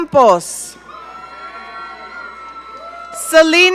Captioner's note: audience cheering